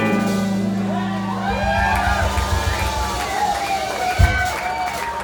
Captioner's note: crowd cheering